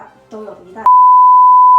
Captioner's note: stutter*2